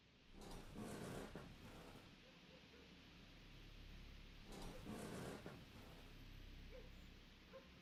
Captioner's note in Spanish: cama crujiendo